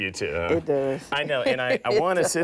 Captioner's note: laughs